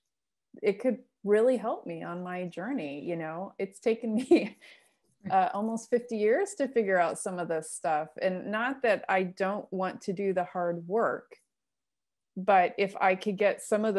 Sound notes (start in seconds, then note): 4.2 laughter